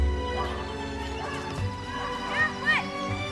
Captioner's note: children chattering